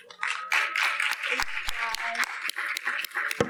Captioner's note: audience applauding